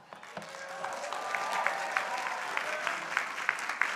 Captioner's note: crowd applauding